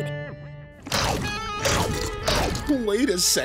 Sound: chomping

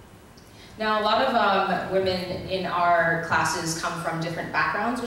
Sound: voiceover

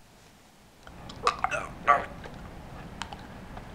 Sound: choking

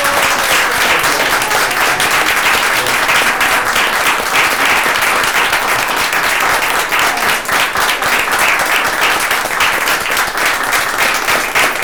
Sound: applause

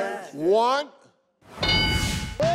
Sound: metallic chime

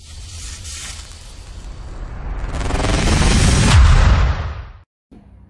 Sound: electrifying sound-effect

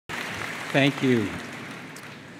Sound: applause

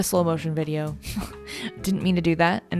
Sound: laughs

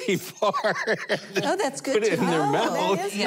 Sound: laughing

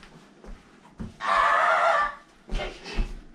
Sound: constipated barking

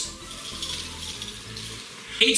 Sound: rustling

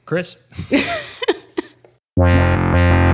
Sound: laughing; upbeat music

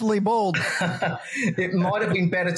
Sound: laugh

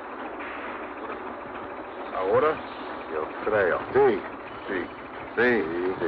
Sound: men speaking in Spanish

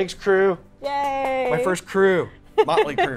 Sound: claps

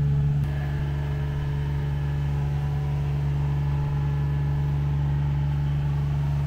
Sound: engine machine rumbling continues

